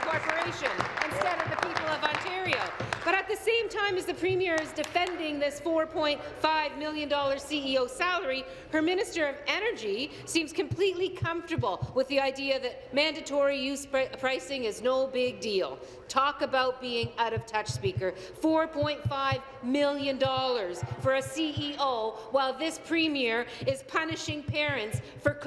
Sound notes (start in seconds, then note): 4.0 applause